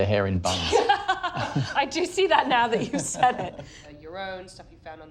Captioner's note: laughs